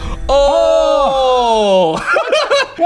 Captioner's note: laughing